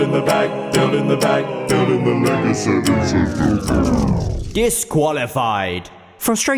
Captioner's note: slows down and pitch falls